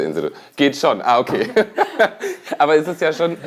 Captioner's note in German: lacht